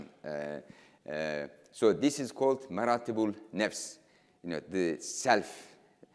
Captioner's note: speaking in foreign language